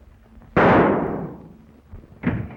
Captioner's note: gunshot